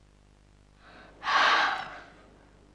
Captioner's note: hissing